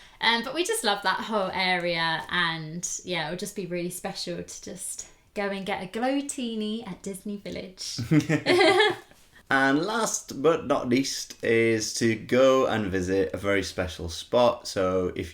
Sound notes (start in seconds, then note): 8.0 laughter